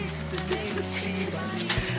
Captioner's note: laughs